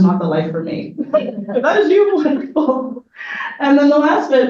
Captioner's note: audience laughs